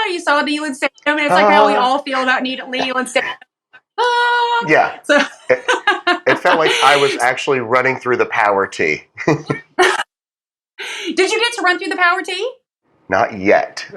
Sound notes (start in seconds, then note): 9.6 laugh; 11.2 laugh